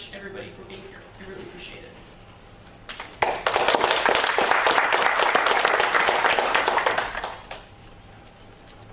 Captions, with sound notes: everybody, for being here. I really appreciate it. [Applause]